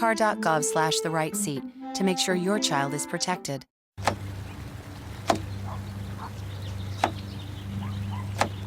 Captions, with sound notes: TO MAKE SURE YOUR CHILD IS PROTECTED. [BIRDS CHIRPING OUTSIDE] [DISTANT DOG BARKING] [DISTANT LAWN MOWER RUMBLING]